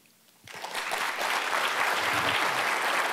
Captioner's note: applause